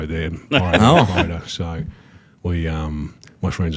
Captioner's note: laughs